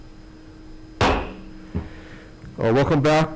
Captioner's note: gavel pounding